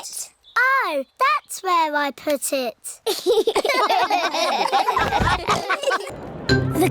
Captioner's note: all laugh